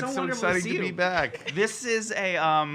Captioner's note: giggles